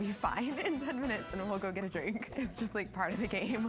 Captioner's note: laughs